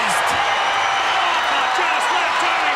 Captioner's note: crowd cheering